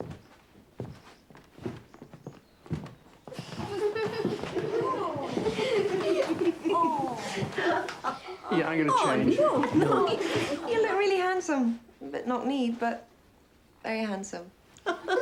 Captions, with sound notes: (boys laughing) - Oh. - Yeah, I'm gonna change. - No, you look really handsome. A bit knock-kneed, but, very handsome.